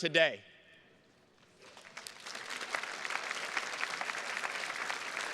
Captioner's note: attendees clapping